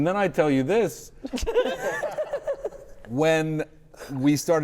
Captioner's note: all laughing